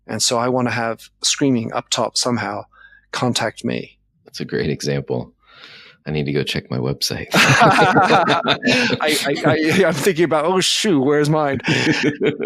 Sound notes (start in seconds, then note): 7.3 laughing